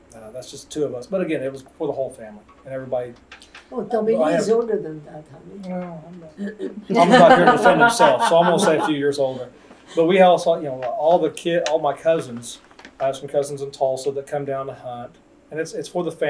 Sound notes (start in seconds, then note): 10.8 laughter